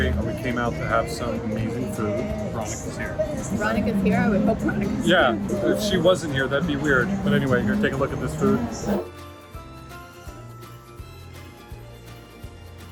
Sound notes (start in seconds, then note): 3.1 laughs; 9.3 uplifting music plays